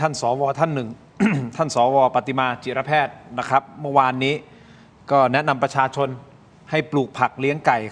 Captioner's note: clears throat